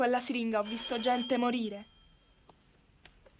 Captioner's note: doorbell